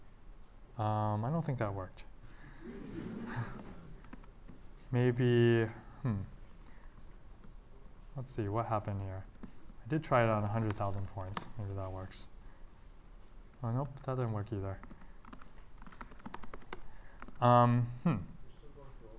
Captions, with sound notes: I don't think that worked. [LAUGHTER] Maybe- let's see what happened here? I did try it on 100,000 points. Maybe that works. And, nope, doesn't work either.